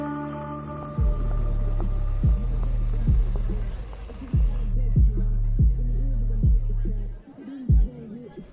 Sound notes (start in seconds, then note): 1.6 people chattering; 1.6 upbeat music